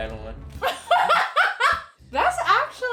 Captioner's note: laughs